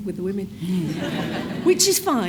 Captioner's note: audience laughs